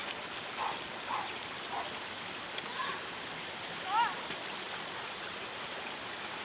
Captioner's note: babbling water. Boy's voices